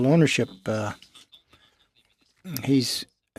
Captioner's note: speaking French